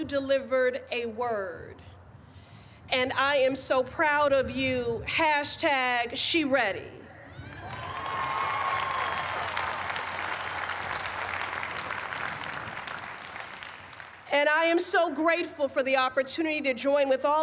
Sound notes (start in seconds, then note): 7.3 cheers and applause